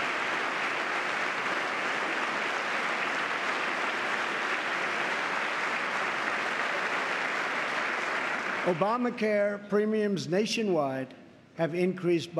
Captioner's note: applause